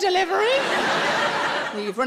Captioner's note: audience laughs